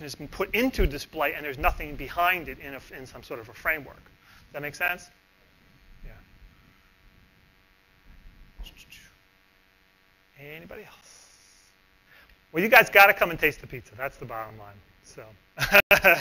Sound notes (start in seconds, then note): 7.8 pause; 10.7 pause; 15.6 laughs